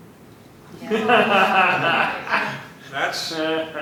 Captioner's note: laughter